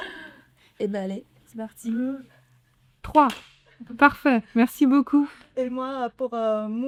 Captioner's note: clap!